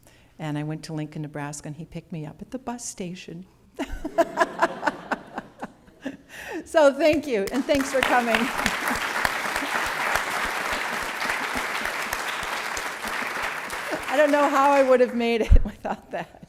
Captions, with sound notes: And I went to Lincoln, Nebraska and he picked me up at the bus station. [Laughter] So thank you, and thanks for coming. [ Applause ] I don't know how I would have made it without that.